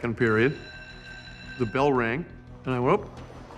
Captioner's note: electronic bell rings